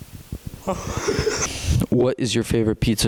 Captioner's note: laughter